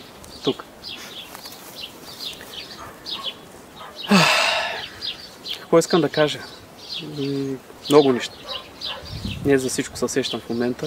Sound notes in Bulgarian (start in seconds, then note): 4.0 Въздишка